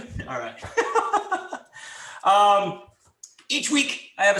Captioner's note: laughs